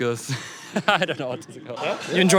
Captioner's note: laughs